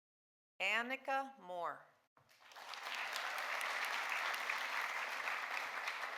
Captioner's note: audience applauding